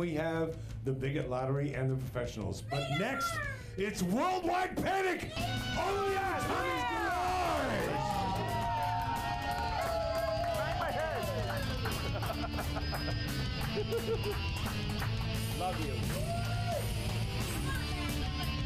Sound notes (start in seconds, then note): 9.6 audience cheers; 9.9 upbeat rock music